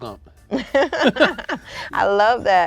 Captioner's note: both laugh